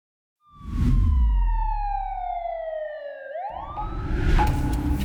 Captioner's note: siren wailing